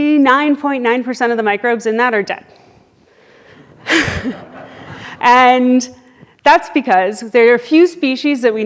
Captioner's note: laughs